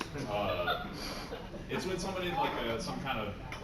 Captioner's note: laughter